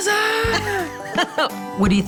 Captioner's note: laughs